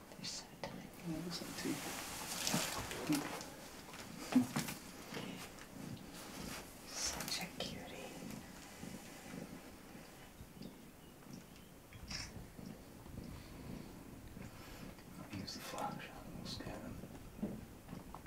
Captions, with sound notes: [Whispering] They’re so tiny. [Whispering] Such a cutie. [Camera shutter] [Whispering] Can’t use the flash, I’ll scare them.